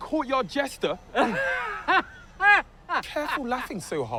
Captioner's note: laughs